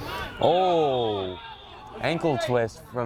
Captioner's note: whistle